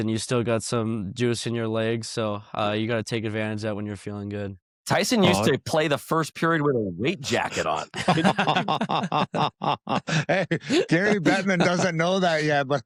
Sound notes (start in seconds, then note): 7.1 laughs